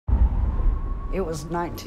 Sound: police siren

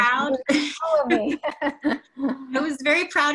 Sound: laughs

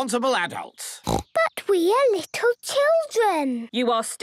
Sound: snorting

